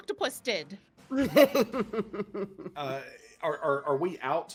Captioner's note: people laughing